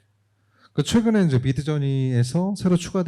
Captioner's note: speaking korean